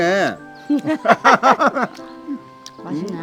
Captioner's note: both laughing